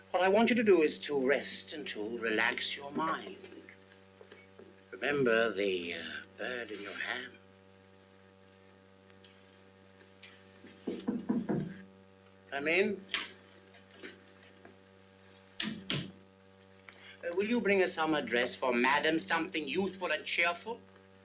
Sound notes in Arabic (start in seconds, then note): 10.8 يطرق الباب; 13.2 يفتح الباب ويغلق